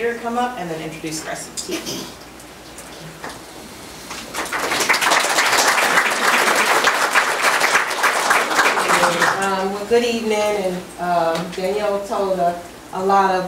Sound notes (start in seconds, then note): 4.1 audience applauds